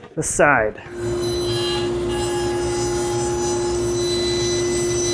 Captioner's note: cutter whirring